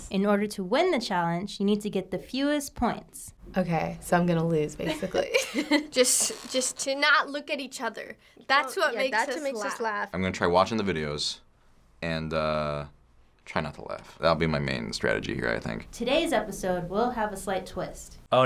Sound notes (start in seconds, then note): 4.9 chuckles